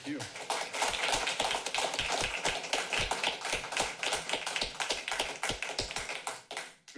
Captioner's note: applause